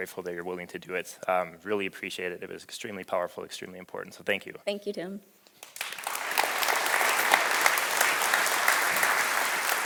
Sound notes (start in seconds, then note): 5.6 audience applause